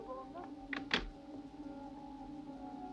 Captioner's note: phone clicks